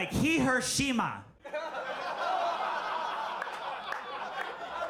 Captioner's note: audience laughing